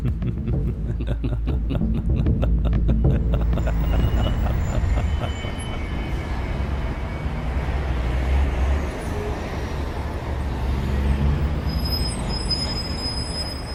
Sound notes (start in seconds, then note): 0.0 laughter; 8.2 road ambiance